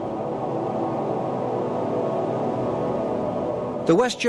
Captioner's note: wind howling